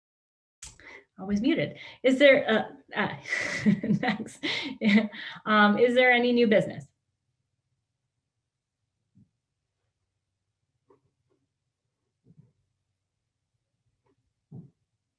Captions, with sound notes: was muted. Is there-- [CHUCKLES] thanks. Is there any new business?